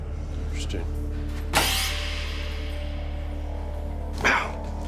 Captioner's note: saw whirls